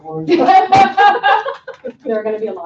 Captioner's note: laughing